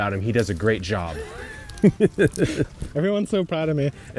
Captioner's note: laughing